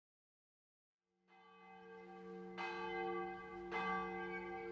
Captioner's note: bells chiming